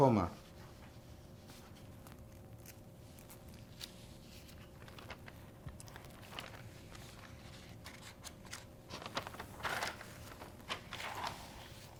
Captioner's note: pauses 11 seconds